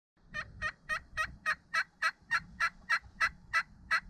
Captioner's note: turkey calling